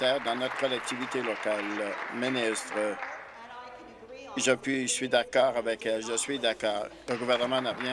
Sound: applause

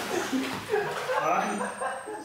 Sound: Reggie laughing

